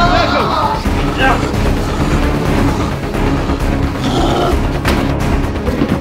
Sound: dramatic chase music; Shaggy screams; werewolf snarls

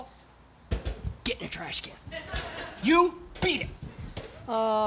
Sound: tap tap

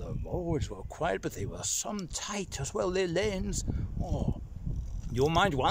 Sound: sighs

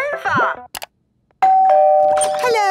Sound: doorbell ringing

